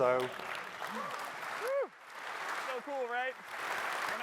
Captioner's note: cheers and applause